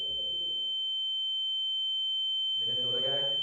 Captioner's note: high-pitched ringing noise